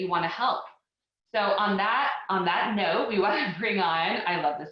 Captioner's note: chuckling